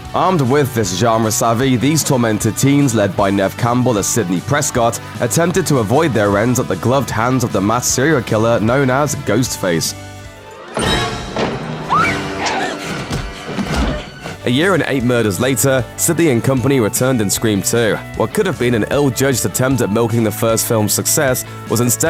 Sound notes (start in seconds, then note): 11.8 scream